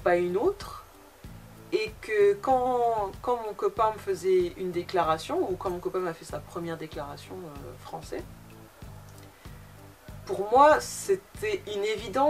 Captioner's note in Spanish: francés